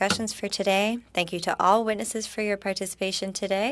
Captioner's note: speaking French